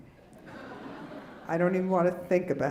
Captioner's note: laughing